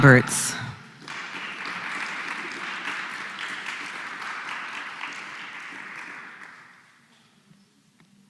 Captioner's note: applause